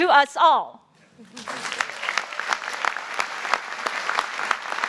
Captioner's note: applause